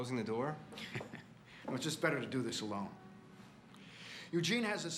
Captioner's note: laughs